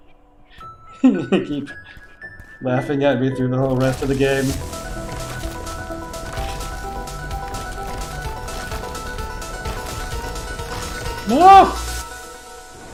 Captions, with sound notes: [laughing] You're gonna keep... laughing at me through the whole rest of the game... Ngaah!